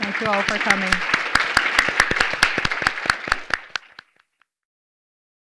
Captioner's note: audience clapping